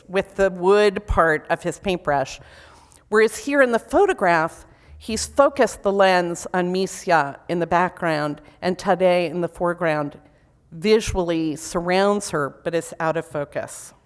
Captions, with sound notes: with the wood part of his paintbrush. Whereas here in the photograph, he's focused the lens on (foreign language) in the background, and (foreign language) in the foreground, visually surrounds her, but is out of focus.